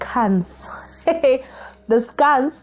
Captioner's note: laughter